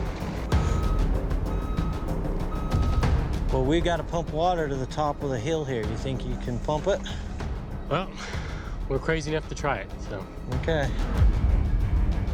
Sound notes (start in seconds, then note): 0.0 beeping; 8.1 exhales